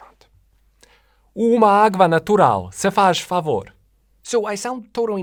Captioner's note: with perfect native speaker accent